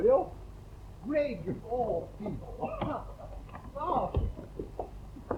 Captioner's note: laughs